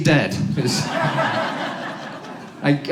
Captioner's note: audience laughs